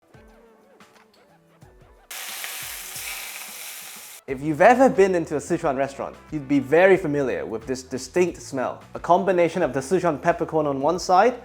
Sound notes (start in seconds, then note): 2.1 boiling sound